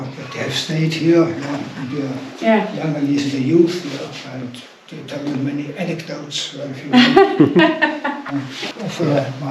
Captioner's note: laughs